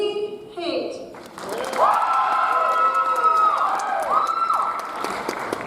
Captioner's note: audience applauds